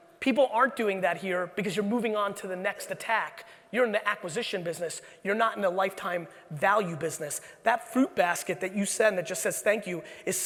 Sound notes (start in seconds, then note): none